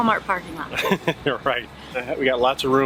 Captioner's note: chuckles